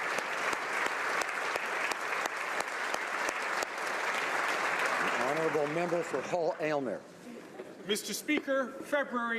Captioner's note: applause